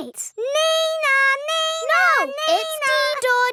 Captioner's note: imitates siren